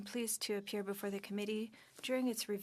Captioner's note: speaking French